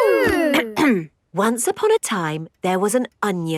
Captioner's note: clears throat